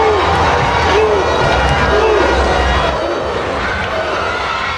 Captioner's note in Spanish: ovación